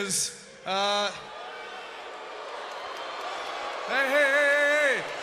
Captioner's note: crowd cheering